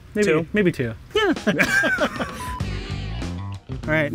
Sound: both laughing; energetic music

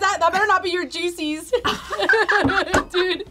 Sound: all laugh

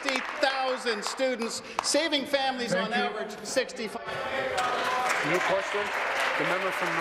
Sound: applause

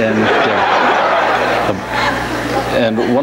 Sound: audience laughs

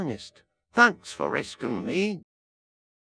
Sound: Wallace Voice

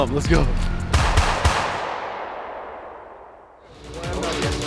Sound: gun shots; upbeat electronic music

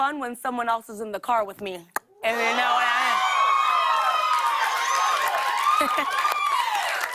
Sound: cheers and applause

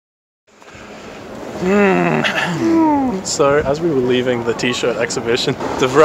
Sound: groans

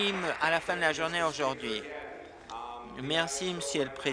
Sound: applause

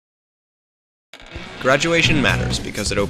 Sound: doors open

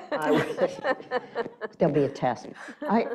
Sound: laughing

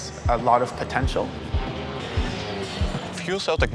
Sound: car engine roaring

